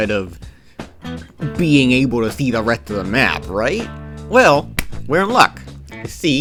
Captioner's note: clap!